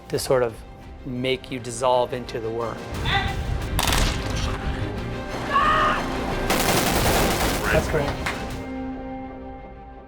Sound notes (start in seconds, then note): 6.2 yelling; 6.5 gunfire